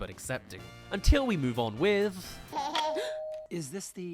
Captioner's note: doorbell